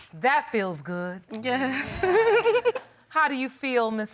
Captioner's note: giggles